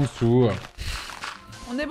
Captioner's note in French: souffle du nez